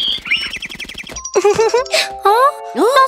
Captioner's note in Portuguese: Risos